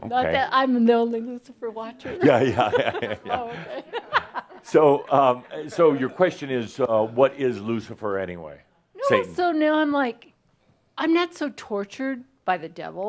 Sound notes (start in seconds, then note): 5.2 she chuckles; 5.7 they chuckle